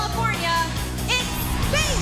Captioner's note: bell ringing